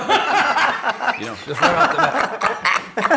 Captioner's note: laughing